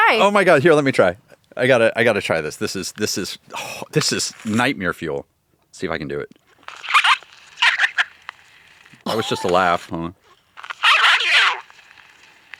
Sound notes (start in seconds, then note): 6.6 toy noise